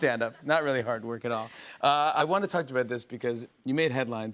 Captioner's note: none